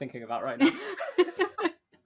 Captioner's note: laughing; laughs